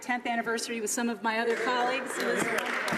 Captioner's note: some Applause